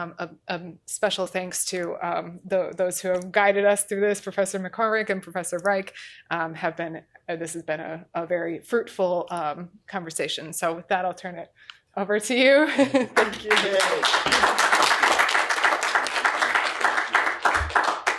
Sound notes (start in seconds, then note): 12.7 chuckles; 13.1 applause